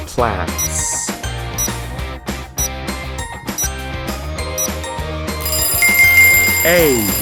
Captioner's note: timer ticking